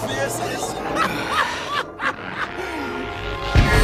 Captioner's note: laughs